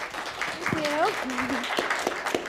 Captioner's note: applause